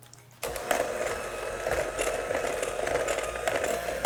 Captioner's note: mixer whirring